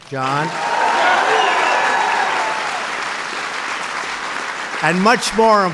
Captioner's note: applause